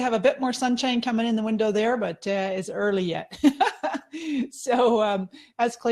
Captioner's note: laughing